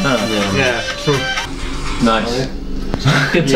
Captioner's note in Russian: зазвонил телефон, на звонке стоял трек